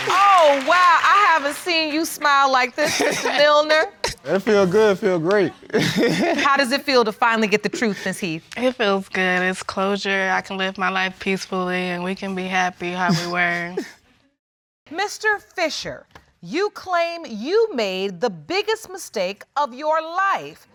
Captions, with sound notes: Oh, wow, I haven't seen you smile like this, Mr. Milner. I feel good, feel great. (LAUGHS) How does it feel to finally get the truth, Ms. Heath. It feels good, it's closure, I can live my life peacefully. And we can be happy how we were. Mr. Fisher, you claim you made the biggest mistake of your life